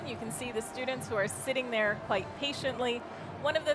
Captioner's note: none